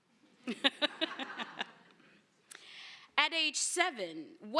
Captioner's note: laughter